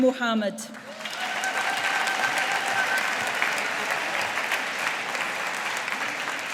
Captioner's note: audience applauding